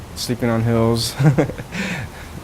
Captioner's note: laughs